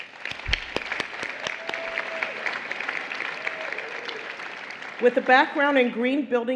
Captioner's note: applause